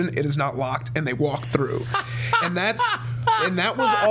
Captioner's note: Brennan guffawing